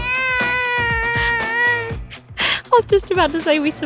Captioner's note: baby crying